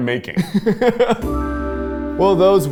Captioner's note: laughs